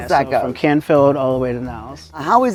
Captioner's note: pat